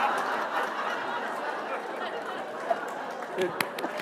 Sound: laughter

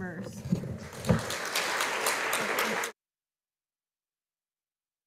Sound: audience applauding

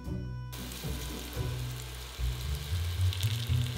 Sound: sizzling

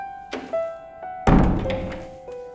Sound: door closing

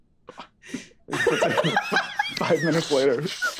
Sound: group laughing

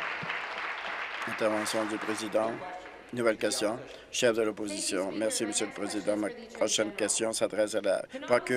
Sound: applause

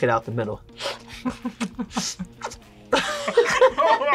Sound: both laugh; laughs

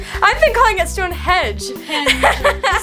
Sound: laughter

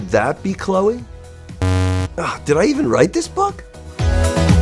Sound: buzz

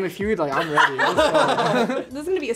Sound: all laugh

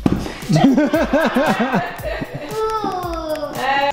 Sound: laughter

